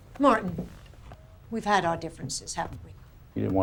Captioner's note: none